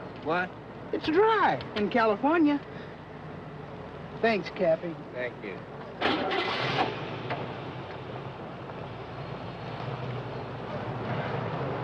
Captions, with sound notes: - What? - It's dry in California. Thanks, Campy - Thank you. (car engine spluttering) (car engine humming)